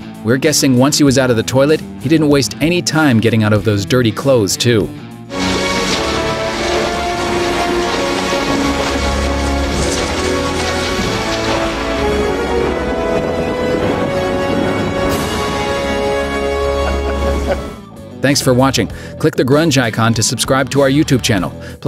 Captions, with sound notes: We're guessing once he was out of the toilet, he didn't waste any time getting out of those dirty clothes too. [Intense music] [Thunder] Thanks for watching! Click the Grunge icon to subscribe to our YouTube channel.